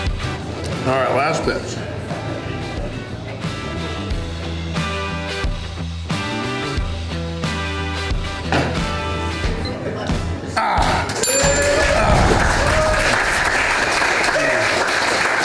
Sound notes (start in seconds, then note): 11.2 bell rings; 13.4 crowd clapping and cheering